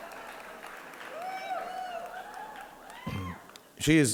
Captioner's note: audience laughing and applauding